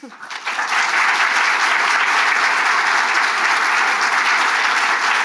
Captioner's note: audience applauding